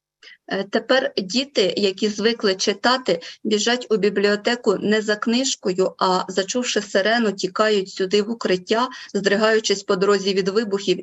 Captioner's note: foreign Language Spoken